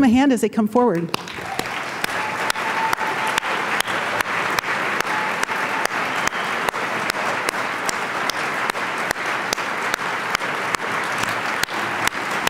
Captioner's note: applause